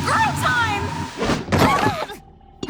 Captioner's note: screaming